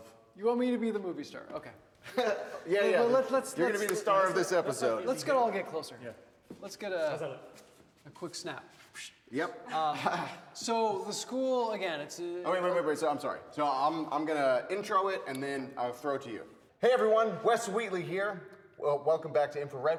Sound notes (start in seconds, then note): 2.0 Wes laughs; 9.8 chuckles